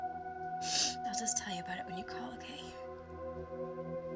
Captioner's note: sniffles